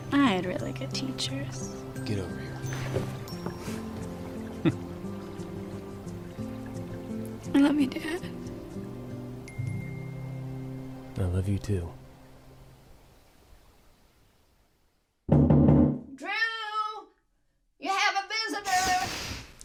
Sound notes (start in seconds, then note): 7.5 tearfully; 15.3 knocking on door